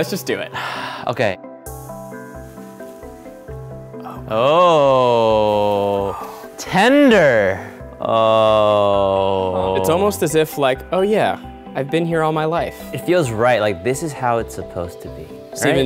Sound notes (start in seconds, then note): 3.9 sighs; 8.0 moans